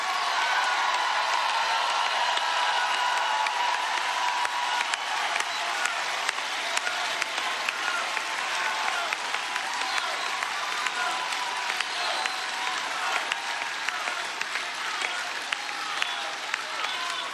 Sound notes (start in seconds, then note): 5.8 applause